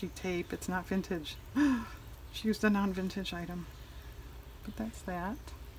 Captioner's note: gasp